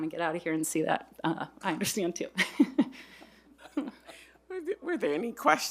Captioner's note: chuckles